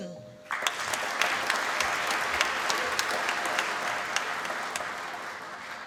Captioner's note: applause